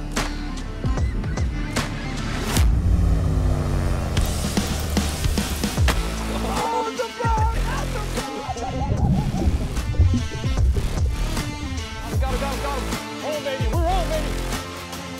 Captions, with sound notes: (fishermen laughing) Oh, baby, hold on, baby!